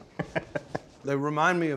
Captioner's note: laughing